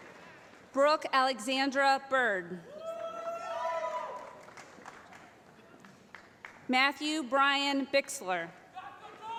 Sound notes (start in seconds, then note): 2.7 cheering